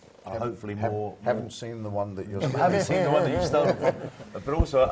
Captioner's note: laugh